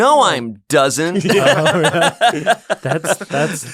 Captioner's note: laughter